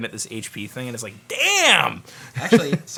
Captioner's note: laughs